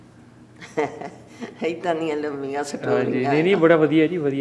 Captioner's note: laughs